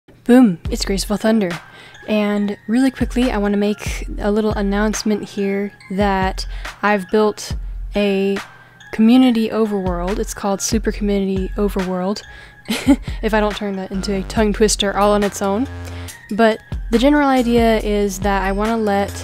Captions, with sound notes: Boom - It's Graceful Thunder. And, really quickly I want to make a little announcement here that... I've built a community overworld. It's called Super Community Overworld. (laughs) ...If I don't turn that into a tongue twister all on its own. But, the general idea is that I want to let...